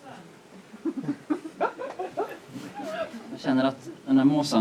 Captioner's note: laughter